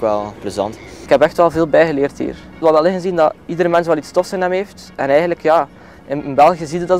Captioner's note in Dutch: gust